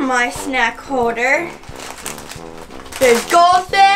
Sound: plastic rattles

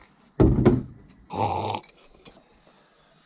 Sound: slurp

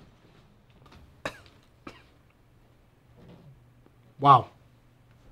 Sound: coughing

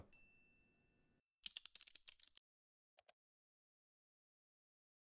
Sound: bell dings; typing and clicking

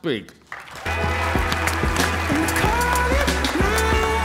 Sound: applause; uptempo pop music

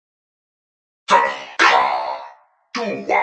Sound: perfectly roasted doom noise

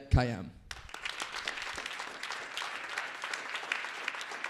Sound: crowd applauding

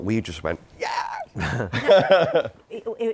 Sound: laughter

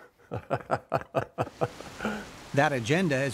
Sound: laughs

